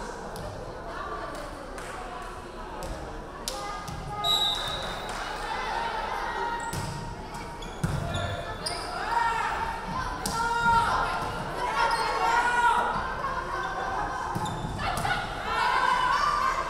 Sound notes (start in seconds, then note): 4.2 referee whistling